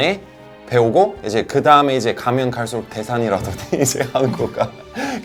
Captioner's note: laugh